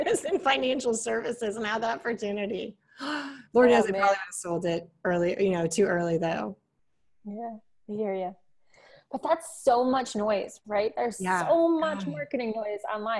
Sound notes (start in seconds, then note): 2.9 gasp